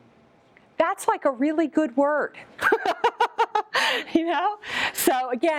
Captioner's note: laughs